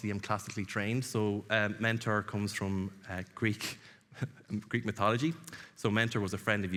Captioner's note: chuckles